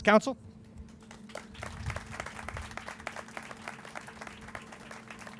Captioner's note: crowd applauding